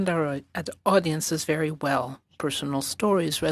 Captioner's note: speaking French